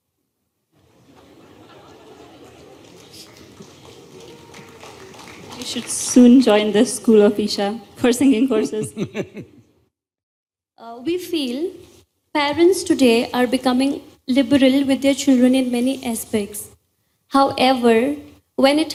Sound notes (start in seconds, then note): 0.8 laughter/Applause; 8.7 Sadhguru laughs